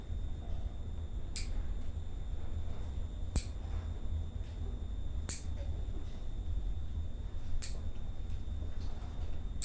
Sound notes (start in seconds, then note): 1.3 nail clippers click